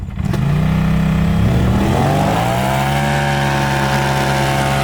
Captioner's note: engine revving